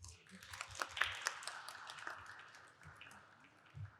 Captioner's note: audience applauding